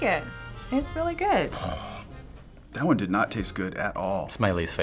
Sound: disgusted groan

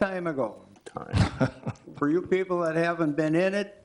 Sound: board member laughs

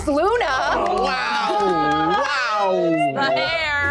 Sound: group cheering

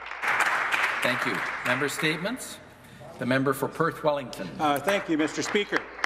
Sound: some Applause

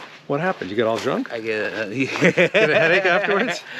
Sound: Ron laughing

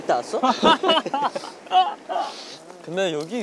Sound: haha

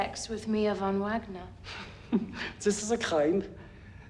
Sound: chuckles

